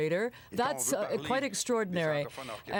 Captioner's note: speaking French